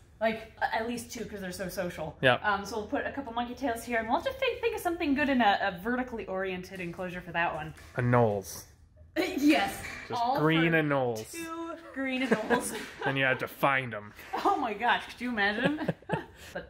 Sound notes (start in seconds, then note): 13.2 laughs